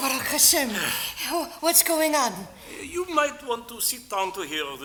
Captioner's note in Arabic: بالعبري